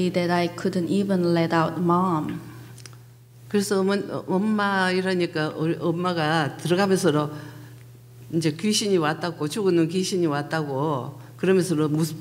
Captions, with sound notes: that I couldn't even let out, Mom. (speaking foreign language)